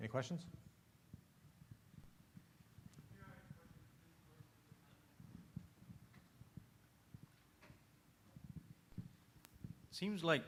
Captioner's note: silence